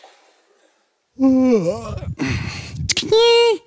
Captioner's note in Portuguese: bocejo